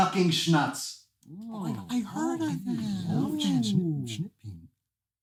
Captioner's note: enthusiastic reactions